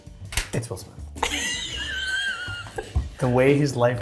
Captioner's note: laughing